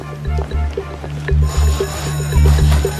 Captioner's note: bell ringing